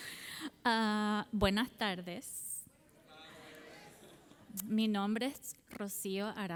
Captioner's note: speaking in Spanish language